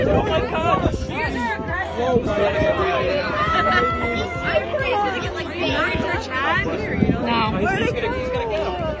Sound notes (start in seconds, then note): 3.3 people chattering; 3.3 woman laughs